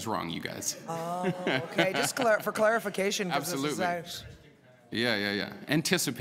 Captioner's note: laughter